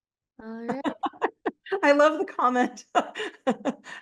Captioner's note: laughs